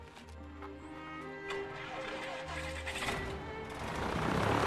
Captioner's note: engine turns over